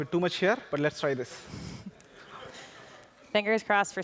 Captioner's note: laughter